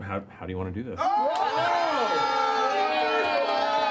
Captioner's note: cheering